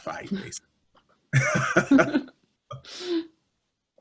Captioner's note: laughter